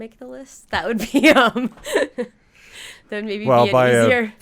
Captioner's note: laughing